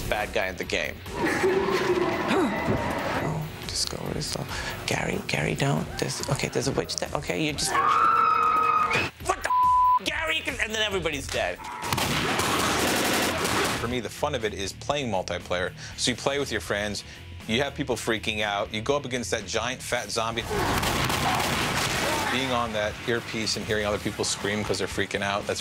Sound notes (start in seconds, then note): 9.3 screaming; 11.8 gunfire; 20.6 gunfire